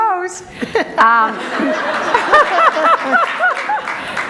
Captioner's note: group laughter